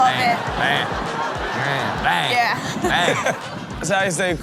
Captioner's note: laughs